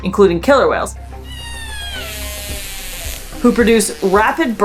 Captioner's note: whale vocalizations